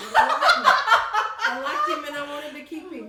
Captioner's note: laughing